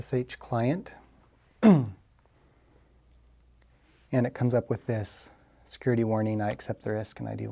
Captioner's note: cough